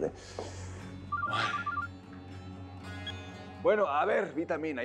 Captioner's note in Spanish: suena el celular